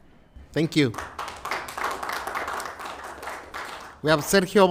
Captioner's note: applause